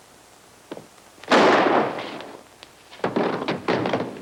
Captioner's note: gun firing